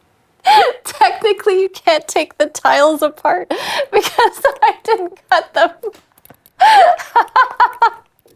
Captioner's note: laughing